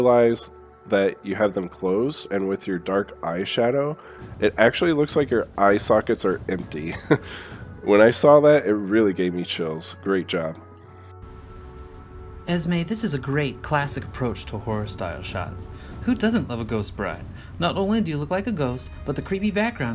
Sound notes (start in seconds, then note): 6.9 nervous laugh